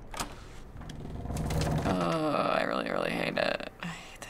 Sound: door creaks loudlly

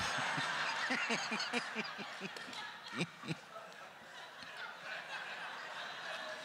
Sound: laughing; crowd laughter; crowd laughter continues

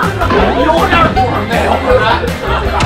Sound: the audience is laughing

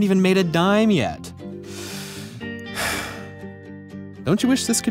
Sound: sighs deeply

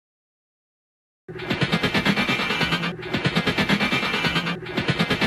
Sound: Six Million Dollar Man Sound Effect

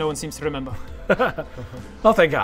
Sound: laugh through the pain

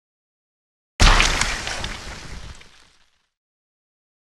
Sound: splat

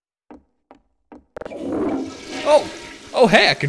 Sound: toilet flushes

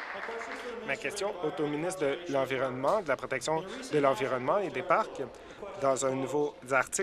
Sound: applause

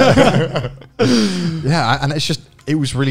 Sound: laughing

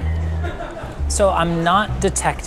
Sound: chef laughing

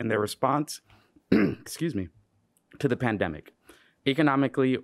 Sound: clearing throat

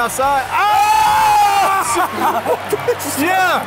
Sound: screams

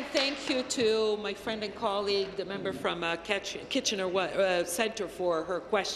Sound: applause

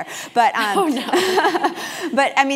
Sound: laugh

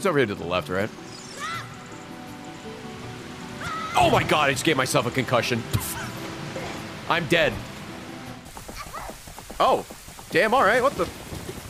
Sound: laughs

